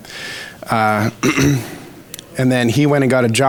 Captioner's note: clears throat